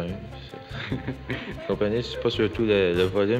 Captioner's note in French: rires